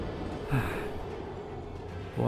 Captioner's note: sighs